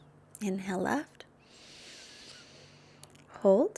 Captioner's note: exhales deeply; inhales deeply